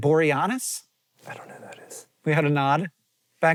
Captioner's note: whispering